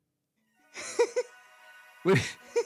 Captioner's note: laughing